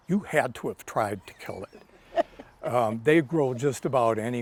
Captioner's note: laughs